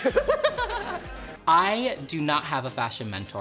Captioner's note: laughing